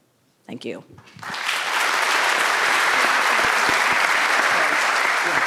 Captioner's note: audience applauding